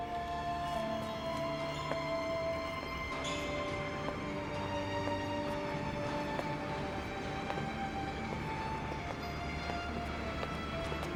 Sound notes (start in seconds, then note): 0.1 dramatic orchestral music; 3.3 door opening